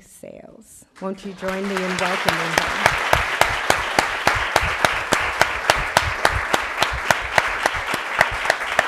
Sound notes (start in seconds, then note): 2.6 applause